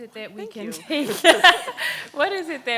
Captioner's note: laughs